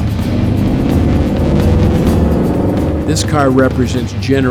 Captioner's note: car engine revs